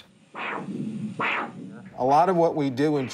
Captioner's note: machine crackles